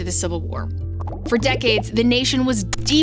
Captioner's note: popping